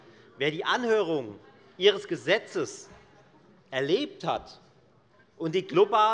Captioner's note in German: none